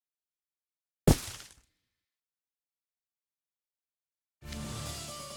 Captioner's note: thud…